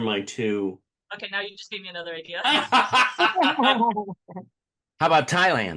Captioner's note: laughter